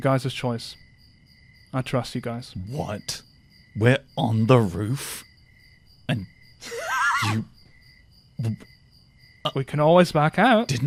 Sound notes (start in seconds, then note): 6.6 laughs